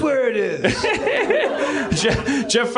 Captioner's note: laughs